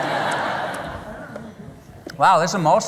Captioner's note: laughter